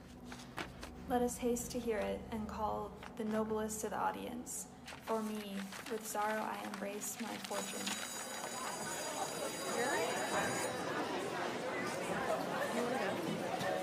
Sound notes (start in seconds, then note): 7.5 bell ringing; 9.2 indistinct chatter